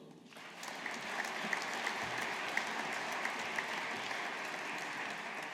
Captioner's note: audience applauding